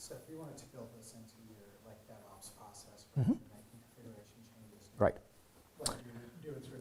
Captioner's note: man speaking faintly off microphone